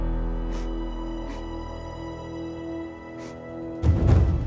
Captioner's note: Sobbing